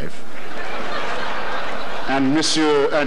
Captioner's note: audience laughter